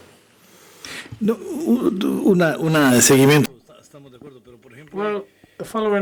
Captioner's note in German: spanisch